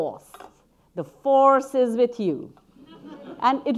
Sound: audience laughing

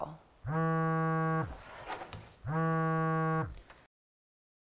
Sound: phone buzzing

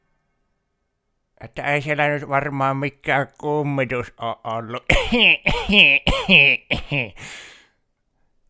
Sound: laughs

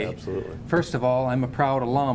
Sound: laughing

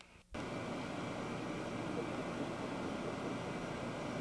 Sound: outdoor ambience

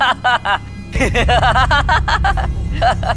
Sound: carefree laughter

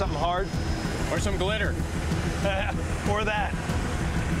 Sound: laughs

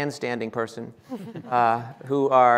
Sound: laughing

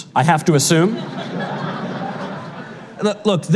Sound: audience laughter

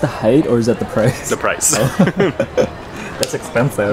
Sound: laughing

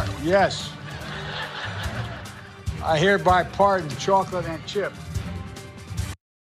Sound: laugh

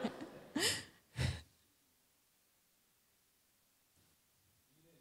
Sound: laughter

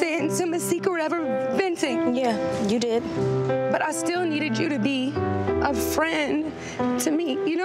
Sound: none

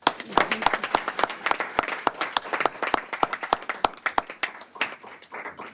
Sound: applause

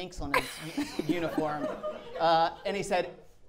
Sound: audience laughing

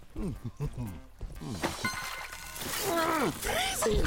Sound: chuckling; soft splash; grunting

